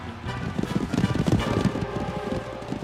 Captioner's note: thudding hooves